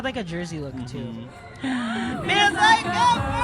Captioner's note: gasp